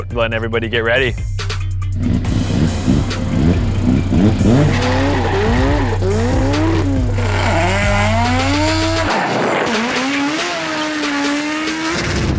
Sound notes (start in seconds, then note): 2.2 engines rev; 4.8 tires squeal; 7.4 engine growls